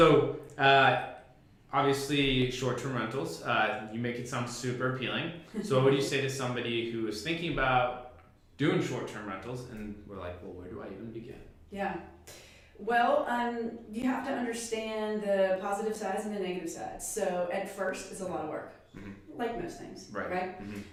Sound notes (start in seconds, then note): 5.2 laughs